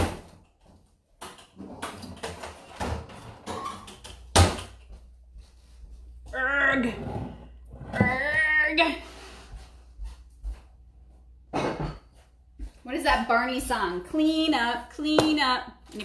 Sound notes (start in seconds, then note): 1.2 closet banging; 6.4 grunting